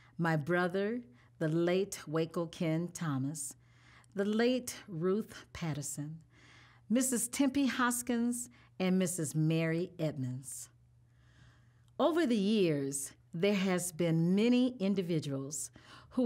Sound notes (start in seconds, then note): none